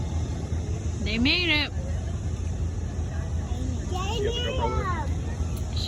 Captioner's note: plane touches down